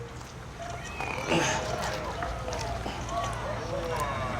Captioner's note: sound of struggling; sound of the audience admiring